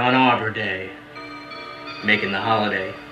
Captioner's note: dramatic bells